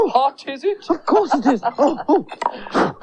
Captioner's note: Toby Laughs; blows On Hands To Cool Them